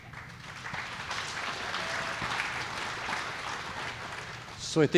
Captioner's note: audience clapping